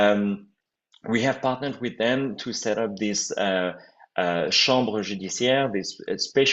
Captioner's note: french